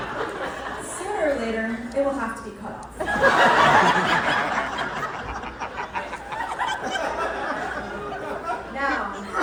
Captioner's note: laughter